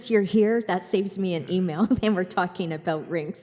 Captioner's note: chuckles